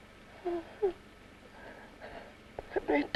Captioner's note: Jan wimpers